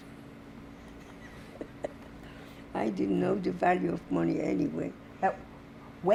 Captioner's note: laughing